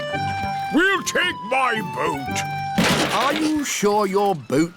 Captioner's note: clattering